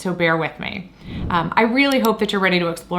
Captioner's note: graphic whooshes; mouse clicks